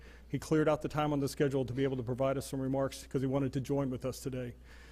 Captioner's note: none